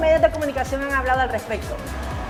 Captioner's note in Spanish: laughs